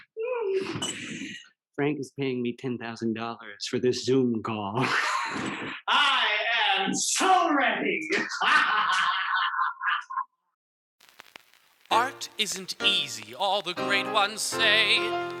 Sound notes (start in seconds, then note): 8.1 laughter